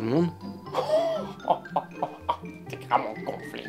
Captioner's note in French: Rire